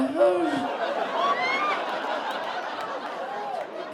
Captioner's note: audience laughing